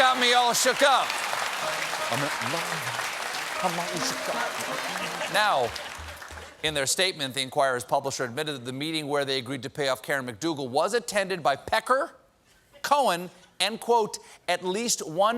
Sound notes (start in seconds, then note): 0.2 laughter; 5.3 applause